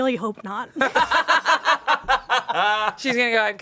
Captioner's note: everyone laughs